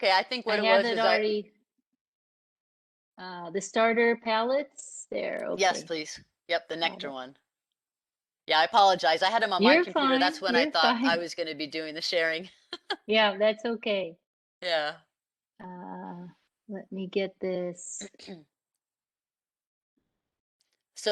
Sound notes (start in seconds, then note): 12.7 laugh